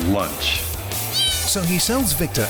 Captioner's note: cat meowing